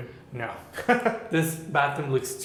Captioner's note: laughs